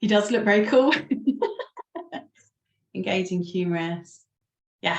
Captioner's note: laughs